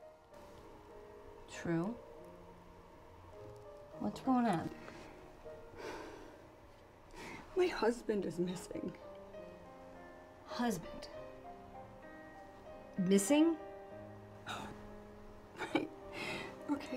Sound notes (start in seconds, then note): 5.8 Trew sighs